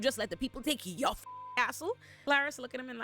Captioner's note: beep